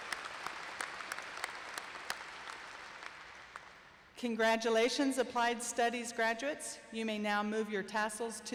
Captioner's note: applause